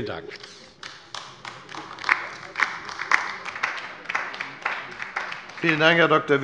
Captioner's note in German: Beifall bei der LINKEN